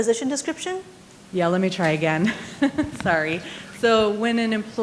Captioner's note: laughs